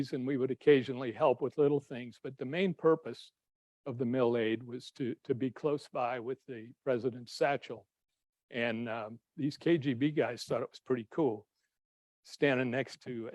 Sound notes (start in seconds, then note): none